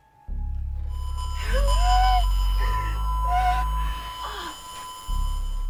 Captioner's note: speaker static whistling